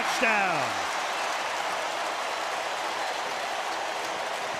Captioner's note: cheering